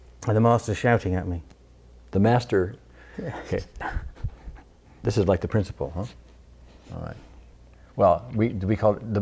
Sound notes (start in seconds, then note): 3.7 cries